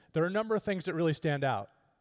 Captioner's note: none